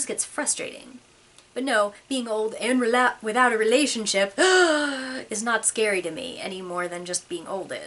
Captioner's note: gasp!!!